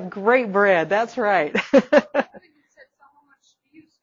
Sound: laughing

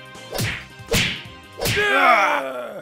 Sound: punch, punch, punch

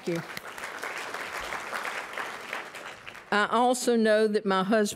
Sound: applause

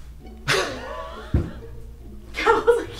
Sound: wheeze laugh

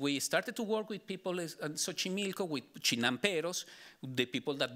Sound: speaking Spanish

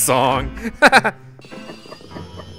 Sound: laughter

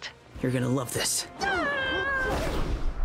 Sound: MJ screams

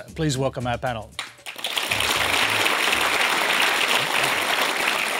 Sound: applause

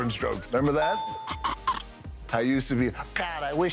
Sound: Kevin Laughs

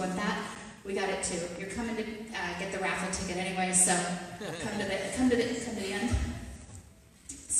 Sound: audience laughter

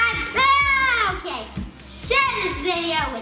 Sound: shouts

